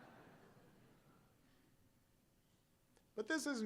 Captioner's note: laughter